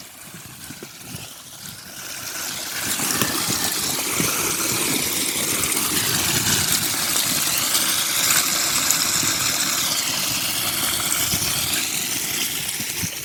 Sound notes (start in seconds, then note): 5.7 water running